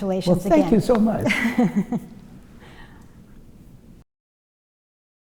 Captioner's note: laughs